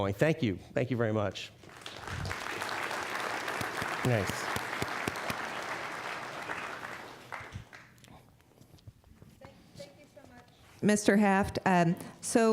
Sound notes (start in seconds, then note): 1.6 applause